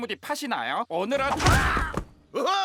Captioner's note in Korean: 둘 다 외치는 소리